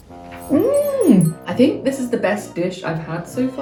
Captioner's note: people applauding; chime tinkles